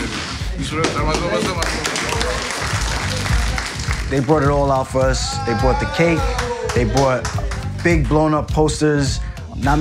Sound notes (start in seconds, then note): 0.8 everyone clapping